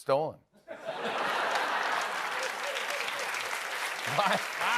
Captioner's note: laughter